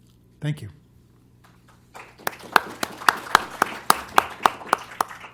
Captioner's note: applause